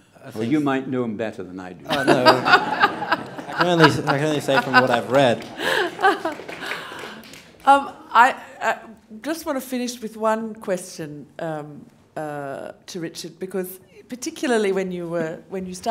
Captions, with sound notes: -Well you might know him better than I do. [Laughing] -Oh no, well I can, I can only say from what I've read. [Applause] -Of- I, I just want to finish with one question, um, ah, to Richard because particularly when you were,